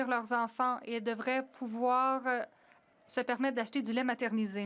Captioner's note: some Applause